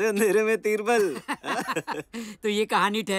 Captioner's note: Kalyan laughs